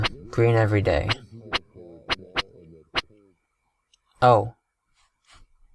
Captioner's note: chattering sound